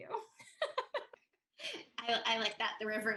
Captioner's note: Tui laughs